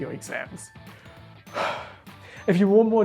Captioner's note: breathes deeply